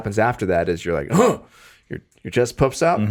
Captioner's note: Justin vocalizes